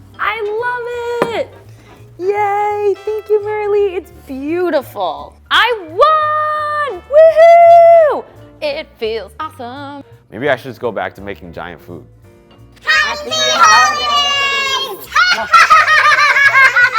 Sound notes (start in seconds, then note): 6.4 cheering; 15.1 laughing